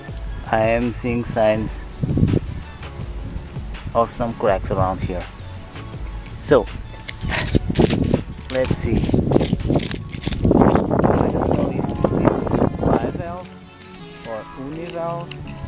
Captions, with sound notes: I'm seeing signs ... of some cracks around here... So... Let's see... [wind ] I don't known if it's bivalve or univalve...